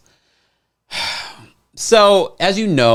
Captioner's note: sighs